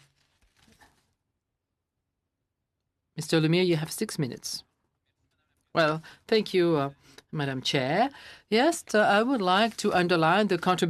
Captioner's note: speaking French